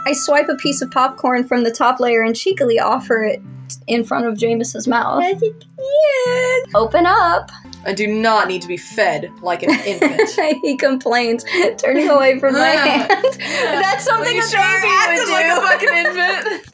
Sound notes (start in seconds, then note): 5.5 babyish Noises; 12.4 laugh